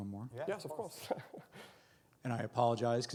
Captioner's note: laughs